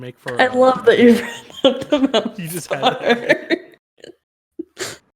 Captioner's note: laughs